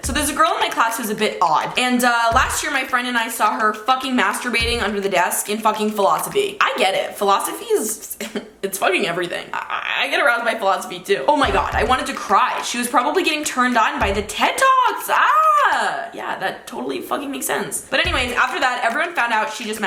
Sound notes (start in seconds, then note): 14.5 yells